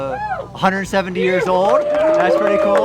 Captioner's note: volunteers cheering